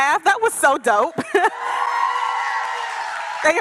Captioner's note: cheering and applause